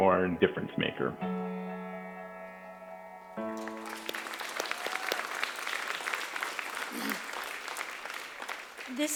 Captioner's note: applause